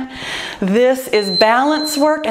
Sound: timer beeps

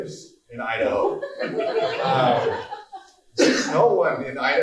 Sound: laughing

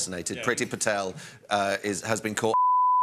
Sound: beeeep

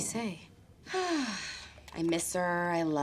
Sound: sighs

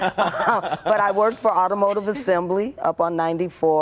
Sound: laughter

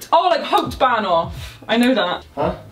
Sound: speaking in foreign language

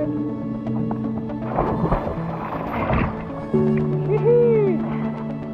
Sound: splash

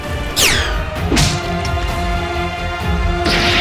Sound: dramatic music; sound effect whirs; axe bangs; climactic music

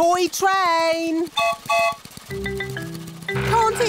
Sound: whistle blows

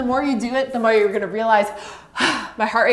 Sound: exhales sharply

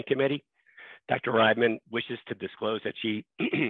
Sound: clears throat

